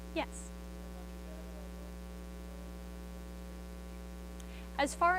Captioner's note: student speaks faintly